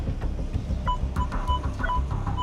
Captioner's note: metal detector beeping